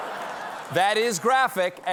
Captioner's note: laughter